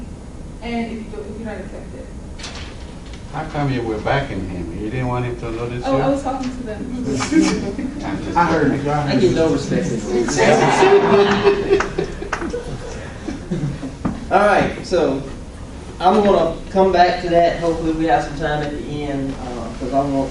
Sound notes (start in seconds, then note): 7.4 laughing; 12.5 laughing